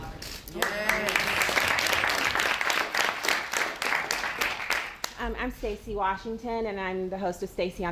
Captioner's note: applause